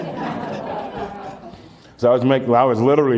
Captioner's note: laughter